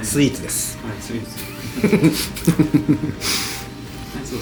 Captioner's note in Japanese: 苦笑